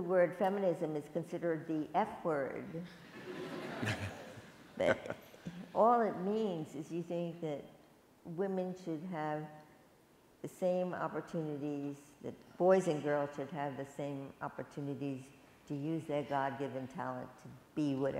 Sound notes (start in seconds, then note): 2.9 laughter